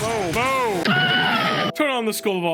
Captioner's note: Skull screams bc he got turned to ash by a volcano